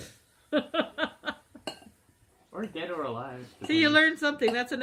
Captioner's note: laughs